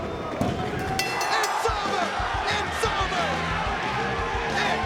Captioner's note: mat slapping; bell ringing; energetic rock music